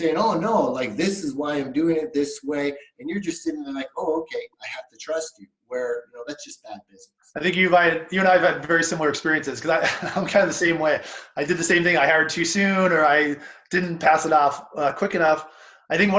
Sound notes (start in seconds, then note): 10.1 laughs